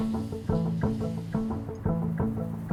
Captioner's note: water running